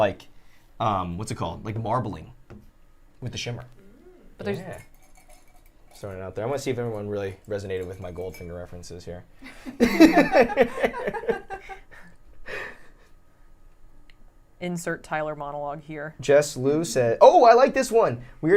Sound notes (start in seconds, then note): 9.4 laughter